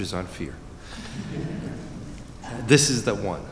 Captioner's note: laughter